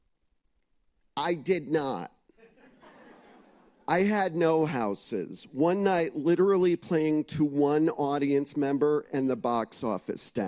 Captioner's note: laughter